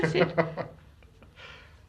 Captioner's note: laughs